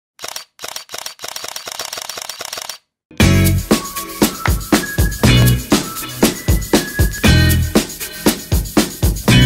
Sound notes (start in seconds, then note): 0.2 camera clicks; 3.2 upbeat music